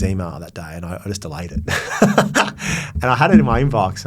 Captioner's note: laughs